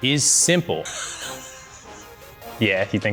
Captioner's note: laughs